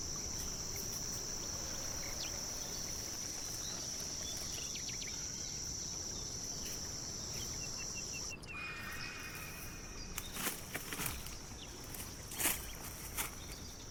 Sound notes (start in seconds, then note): 8.6 creature shrieking; 11.8 footsteps pattering